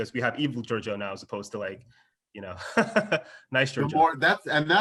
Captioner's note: laughs